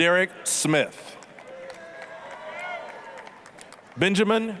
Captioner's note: applause, cheering